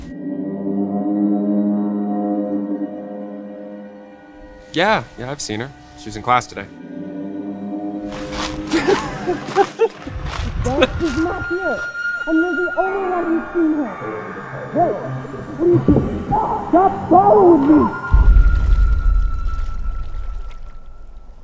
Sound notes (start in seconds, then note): 0.1 ominous horn-like sound; 7.0 ominous horn-like sound; 8.1 crunching sound and laughter; 18.3 ominous water running sound